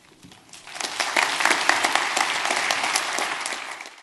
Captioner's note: applause